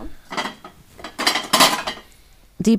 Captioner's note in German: Geschirrklappern